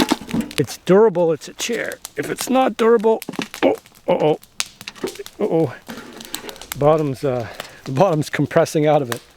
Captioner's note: giggles